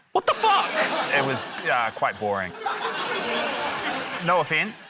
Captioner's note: laughter